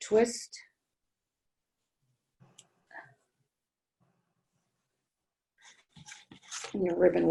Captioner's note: silence